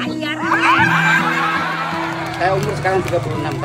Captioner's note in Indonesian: tertawa